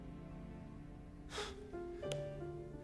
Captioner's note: inhales sharply